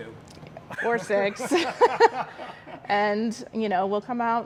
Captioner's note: laughing; both laughing